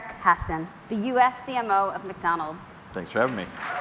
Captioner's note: cheers and Applause